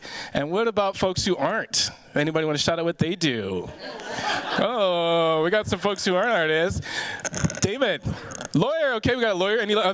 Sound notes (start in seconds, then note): 3.7 chuckling